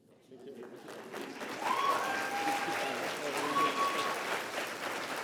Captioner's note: applause